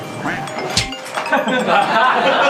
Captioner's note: spits